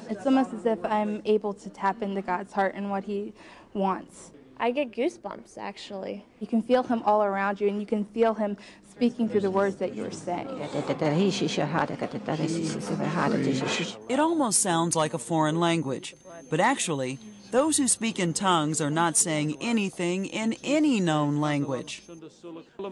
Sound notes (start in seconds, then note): 10.8 speaking in tongues